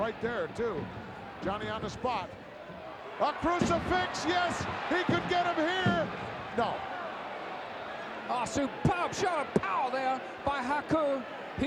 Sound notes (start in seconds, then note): 5.8 referee pounding mat